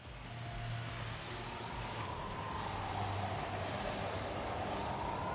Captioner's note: sirens whirring